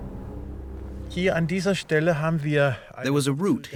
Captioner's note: speaking German